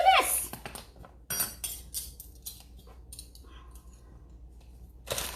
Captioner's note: metal clanging